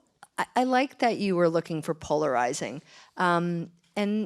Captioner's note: gasp